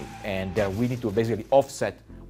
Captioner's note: vehicles crashing